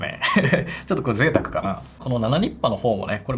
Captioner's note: laughs